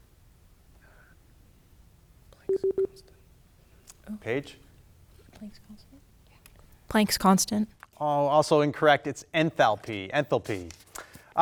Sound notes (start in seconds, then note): 2.0 buzzer buzzes